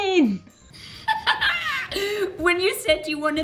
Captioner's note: laughs